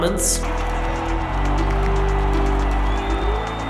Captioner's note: crowd cheers